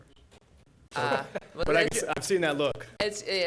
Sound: laughs

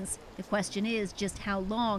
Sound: speaking alternate language

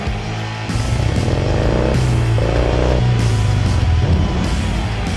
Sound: car engine running

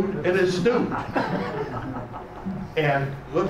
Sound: laughing

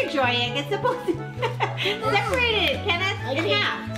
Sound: laughs

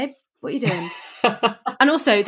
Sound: laughs

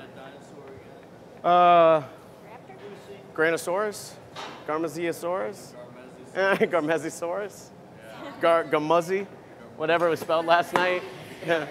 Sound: laughter

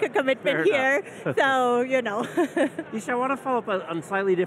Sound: chuckling

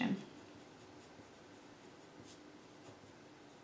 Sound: pen scribbles

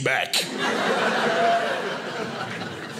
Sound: audience laughing

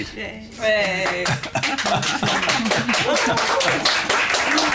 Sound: applause

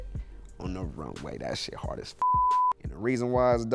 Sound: beep

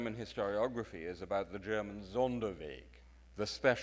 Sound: speaks in foreign language

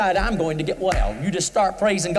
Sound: claps hands

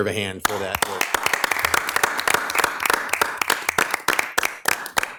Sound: audience clapping

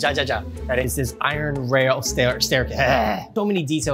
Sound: groans loudly

